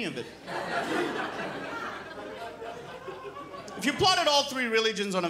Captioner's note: crowd laughs